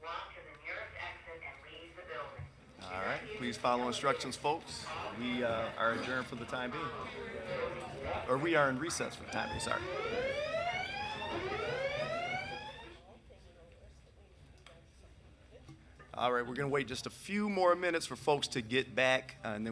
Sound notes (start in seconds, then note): 10.9 alarm ringing; 13.8 people chattering distantly